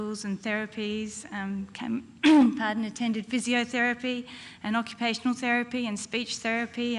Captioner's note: cough